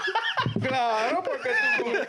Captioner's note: laughing